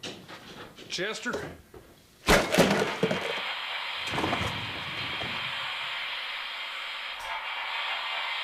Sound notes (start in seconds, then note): 2.3 object clattering; 2.8 static hissing